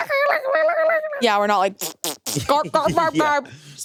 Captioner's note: sputters